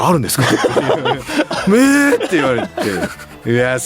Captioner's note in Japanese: 笑い